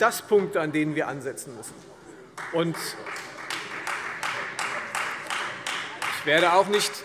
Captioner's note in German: Vereinzelter Beifall Freie Demokraten